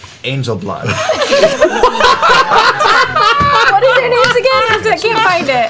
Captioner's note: laughter